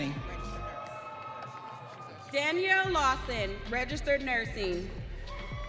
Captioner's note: audience cheering